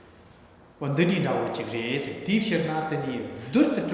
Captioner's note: speaking tibetan